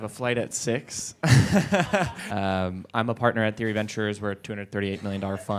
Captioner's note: chuckles